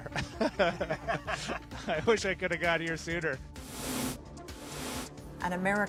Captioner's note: laughter